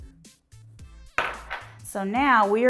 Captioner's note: bowl rattles